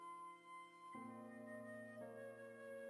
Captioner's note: none